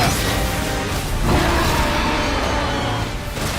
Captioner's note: roaring